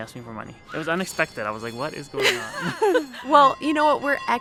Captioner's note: both laugh